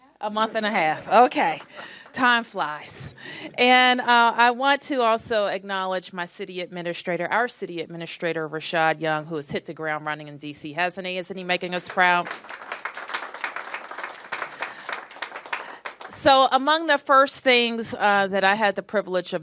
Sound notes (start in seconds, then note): 14.5 applause